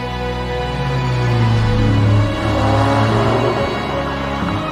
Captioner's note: engine revving